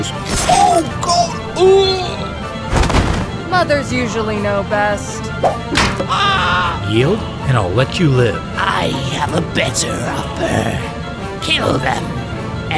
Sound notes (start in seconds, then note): 0.3 death groan; 5.4 fighting noises, pirates dying